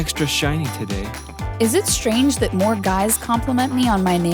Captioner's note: voiceover